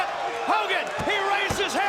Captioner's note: crowd cheering